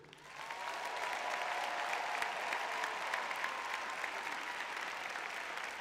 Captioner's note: applause